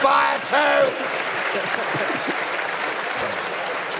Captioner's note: applause